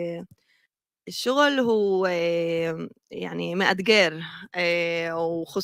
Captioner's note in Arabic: لغة أجنبية